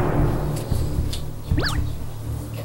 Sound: slap!

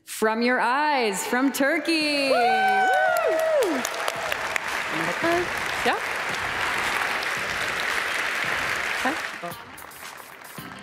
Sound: cheers

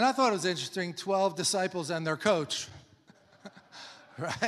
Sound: laughs; congregation laughs

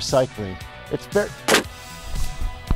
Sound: thud

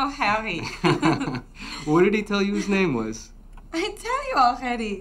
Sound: chuckles

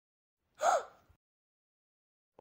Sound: gasp

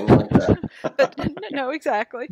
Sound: laughs

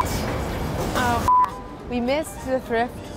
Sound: beep

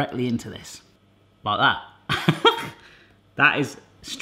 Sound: laughs

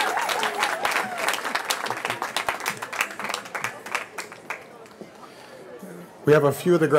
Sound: cheering

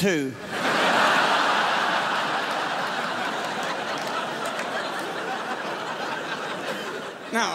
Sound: crowd laughs

